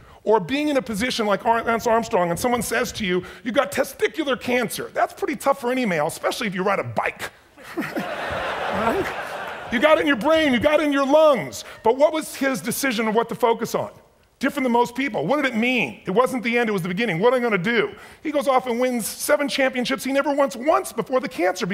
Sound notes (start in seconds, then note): 7.6 chuckles; 7.6 audience laughs